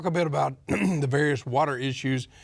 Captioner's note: clears throat